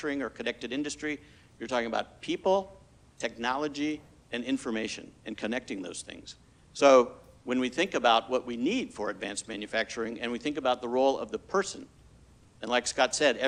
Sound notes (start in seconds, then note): none